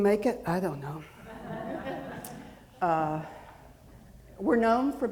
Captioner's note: audience laughing